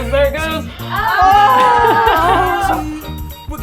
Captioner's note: laugh